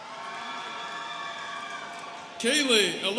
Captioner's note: students cheering